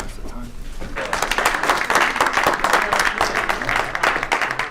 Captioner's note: applause